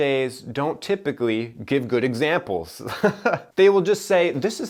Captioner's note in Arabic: ضحكات مكتومة